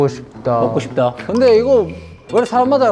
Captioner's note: om nom